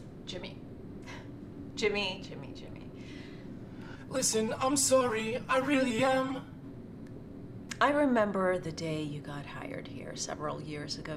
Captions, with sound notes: Jimmy. Jimmy, Jimmy, Jimmy - (in robotic voice) Listen, I'm sorry, I really am I remember the day you got hired here several years ago